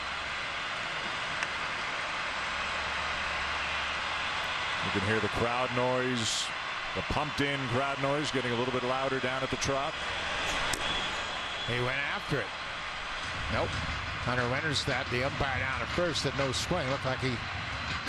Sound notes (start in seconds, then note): 5.7 applause; 6.3 cheering and Applause